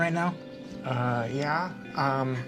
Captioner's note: quiet and stumbling